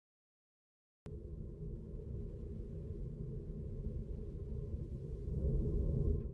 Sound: black hole menacingly hums in the background

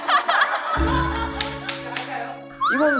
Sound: clapping

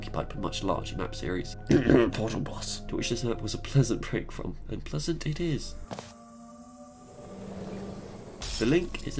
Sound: coughs

